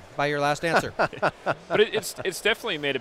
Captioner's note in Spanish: riéndose